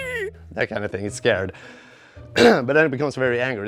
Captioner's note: clears throat